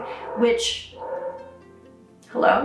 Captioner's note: dogs barking